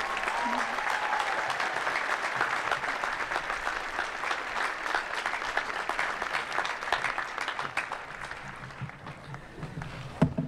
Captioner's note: applause